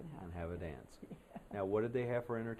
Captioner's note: laughter